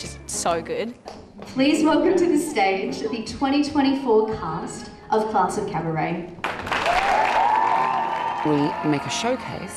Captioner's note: applause